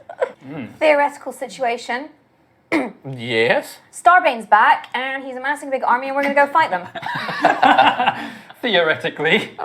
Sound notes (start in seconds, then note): 2.7 clears throat; 6.8 laughter